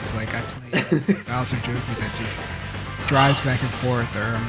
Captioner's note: laughs